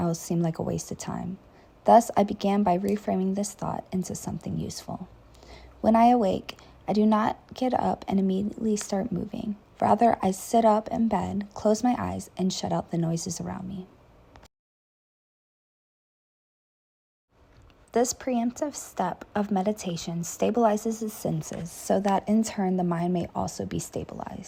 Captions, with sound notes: seemed like a waste of time. Thus I began by reframing this thought into something useful. When I wake, I do not get up and immediately start moving, rather I sit up in bed, close my eyes, and shut out the noises around me.” [moment of silence] This is the preemptive step of meditation that stabilizes the senses so that, in turn, the mind may also be stabilized.